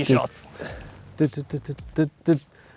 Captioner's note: humming